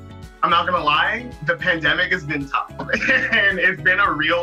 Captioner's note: laughing